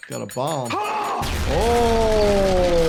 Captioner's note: screams; debris thuds